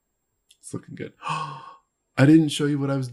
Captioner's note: gasps